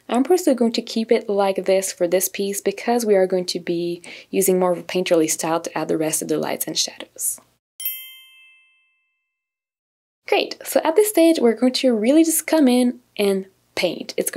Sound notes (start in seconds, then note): 7.8 bell chiming